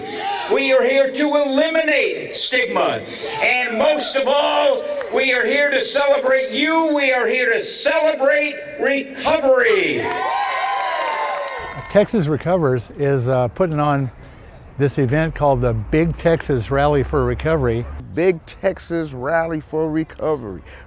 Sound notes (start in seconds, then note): 10.1 applause